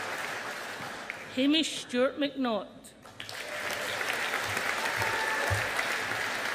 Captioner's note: audience applauding